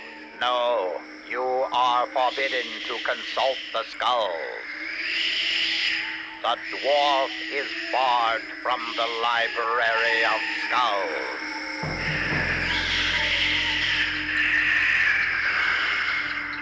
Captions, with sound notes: - No, no. You are forbidden to consult the skulls. The dwarf is barred from the Library of Skulls. (mysterious hissing and whirring)